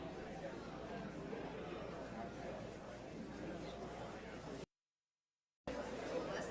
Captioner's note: audience members chattering indistinctly